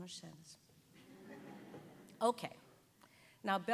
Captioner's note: audience giggling